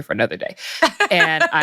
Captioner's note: laughs